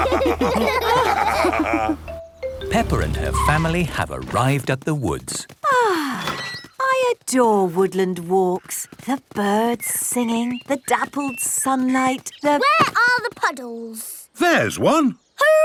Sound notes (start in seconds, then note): 0.0 laughter; 6.0 contented sigh